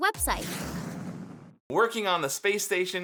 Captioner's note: rocket whooshing